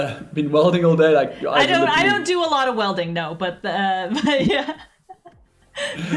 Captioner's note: laughs